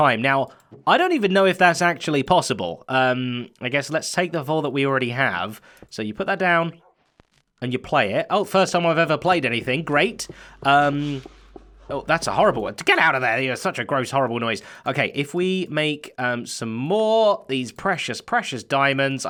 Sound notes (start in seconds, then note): 11.2 disc plays